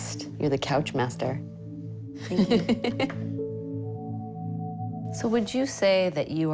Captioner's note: laughs